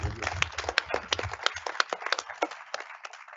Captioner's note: applause